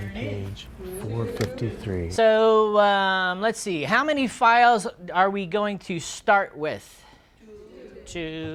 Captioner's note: students respond